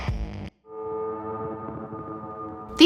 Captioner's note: eerie sounds